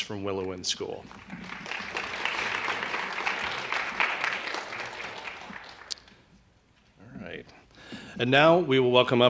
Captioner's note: applause